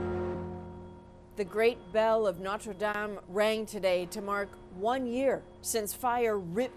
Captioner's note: bells tolling